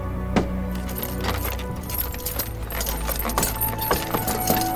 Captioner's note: hammer banging; wagon creaking